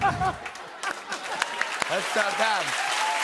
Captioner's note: laughter; cheering and applause